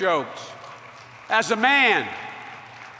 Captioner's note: applause